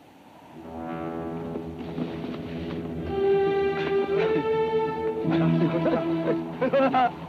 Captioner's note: tense music; Apaches chatter